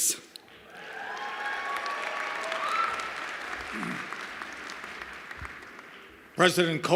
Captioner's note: cheers and applause